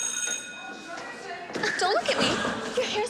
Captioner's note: school bell rings